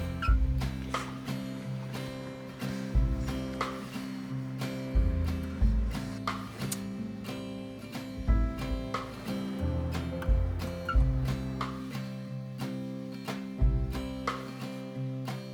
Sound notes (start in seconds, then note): 6.2 smooching; 9.4 soft music